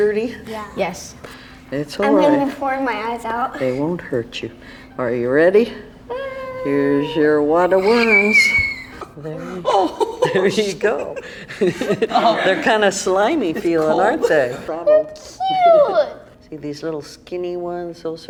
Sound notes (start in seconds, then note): 7.6 girl squeals; 9.4 laughs; 11.5 laugh